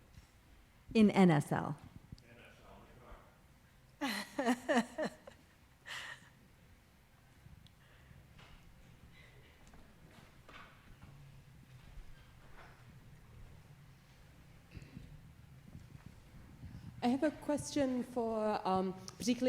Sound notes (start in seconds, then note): 4.0 woman laughing